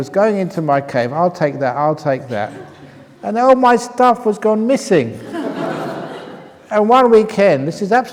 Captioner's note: laughter